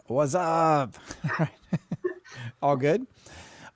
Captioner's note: laughs